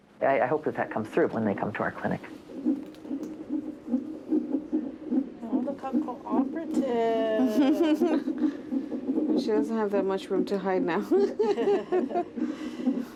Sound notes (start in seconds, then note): 2.9 fetal heart beating; 7.0 laughs; 10.8 laughs